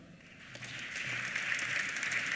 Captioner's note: applause